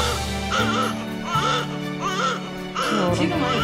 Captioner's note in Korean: 우렁찬 울음소리